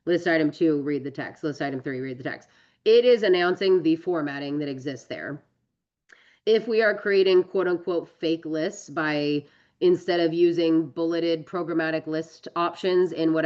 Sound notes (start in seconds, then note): none